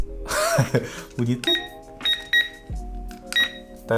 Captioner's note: beep sound